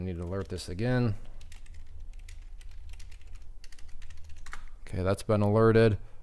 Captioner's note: keyboard clicking